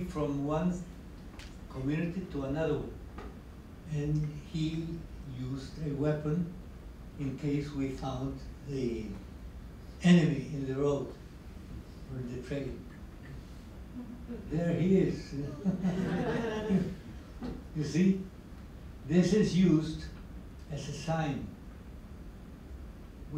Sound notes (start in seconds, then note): 15.4 laughter